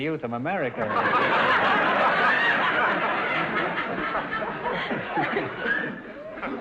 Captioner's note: audience laughter